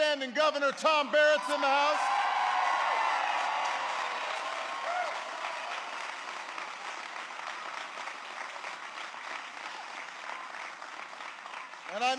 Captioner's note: applause